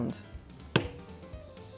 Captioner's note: bang